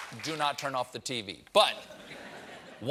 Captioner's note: applause